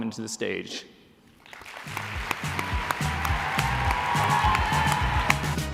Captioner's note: applause